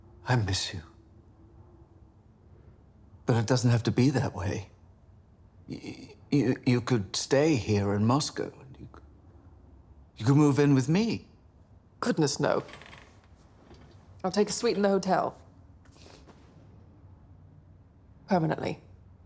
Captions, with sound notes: - I miss you. But it doesn't have to be that way. (stammering) You could stay here in Moscow, you could... You could move in with me. - Goodness, no. I'll take a suite in the hotel. Permanently.